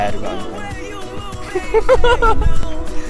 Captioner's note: heeheeheehahaha